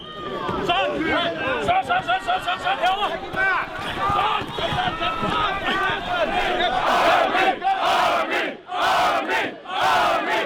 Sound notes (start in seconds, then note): 1.7 shouting; 5.9 chanting